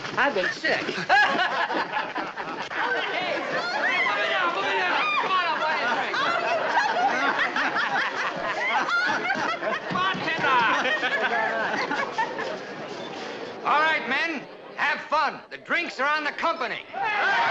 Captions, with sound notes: I've been sick. [ LAUGHING ] [ CHEERING, LAUGHING ] All right men, have fun! The drinks are on the company!